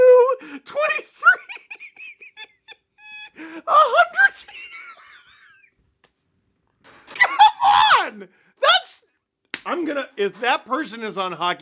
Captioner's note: derranged laughter